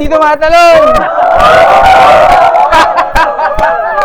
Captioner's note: cheers